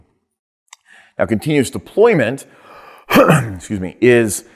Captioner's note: clears throat